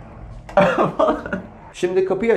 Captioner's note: laughter